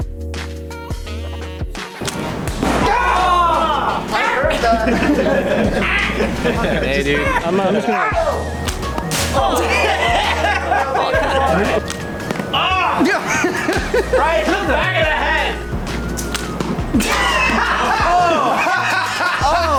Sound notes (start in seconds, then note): 12.4 snickering; 17.0 laughter